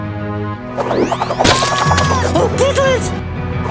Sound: Spinning impact, Piglet screaming

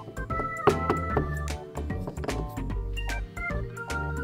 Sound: knocking

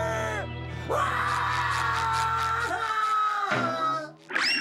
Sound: screaming

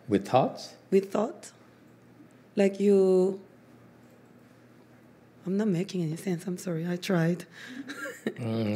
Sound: laughs

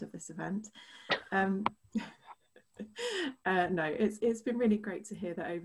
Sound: laughter

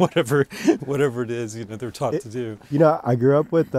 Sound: laughs

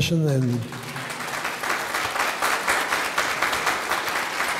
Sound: audience clapping

